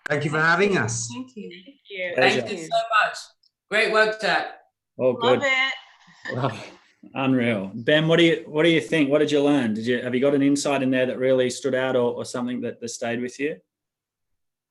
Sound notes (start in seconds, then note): 6.2 giggles